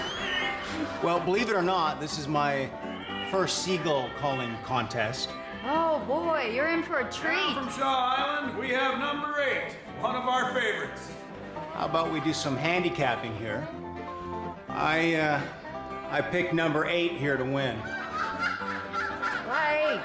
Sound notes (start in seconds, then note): 17.8 gives a seagull cry